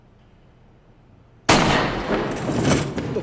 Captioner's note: gunshot